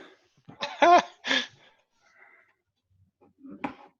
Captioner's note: laughing